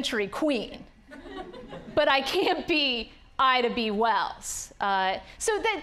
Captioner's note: audience laughing